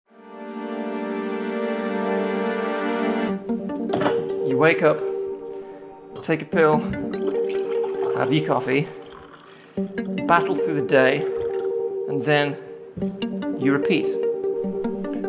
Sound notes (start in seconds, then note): 0.2 dramatic music; 7.1 coffee pouring